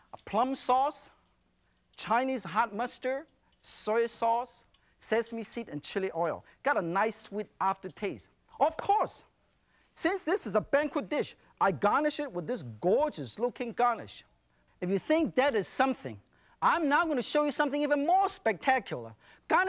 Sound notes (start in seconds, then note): none